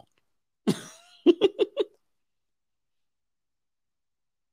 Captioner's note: giggles